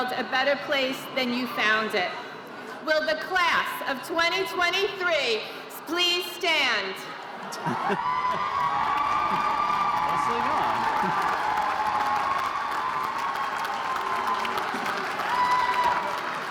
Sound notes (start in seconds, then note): 7.7 audience cheering and applauding